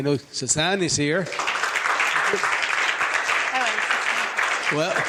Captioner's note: applause